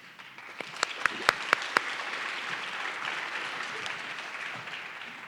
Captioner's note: audience clapping